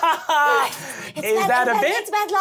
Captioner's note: laughing